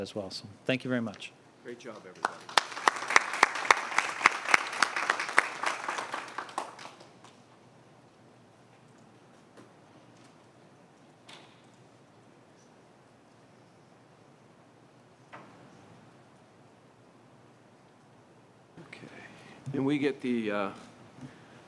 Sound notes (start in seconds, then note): 7.1 applause